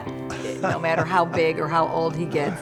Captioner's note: laughing